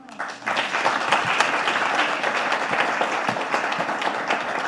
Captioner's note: audience clapping